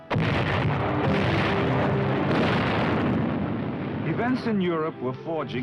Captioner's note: guns booming